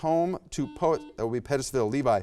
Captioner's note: buzzer buzzes